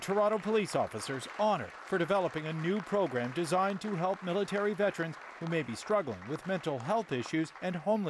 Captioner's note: applause